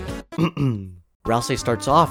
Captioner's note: ahem